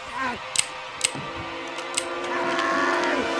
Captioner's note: gun clicks